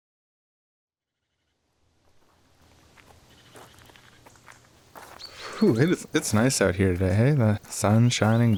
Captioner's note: wildlife noises, sound of footsteps on gravel